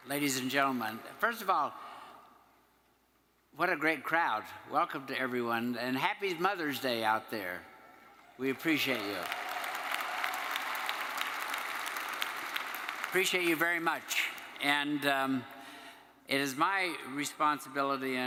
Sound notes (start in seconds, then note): 8.6 attendees applauding